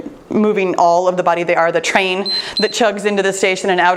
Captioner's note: timer beeps